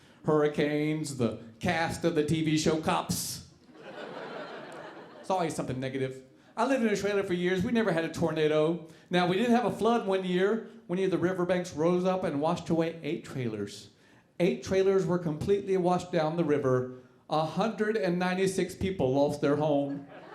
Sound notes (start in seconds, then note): 3.7 audience laughing; 19.9 audience laughing